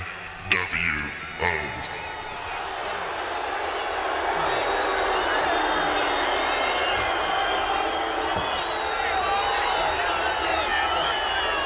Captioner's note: crowd chatter